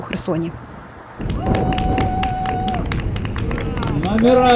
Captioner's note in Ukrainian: оплески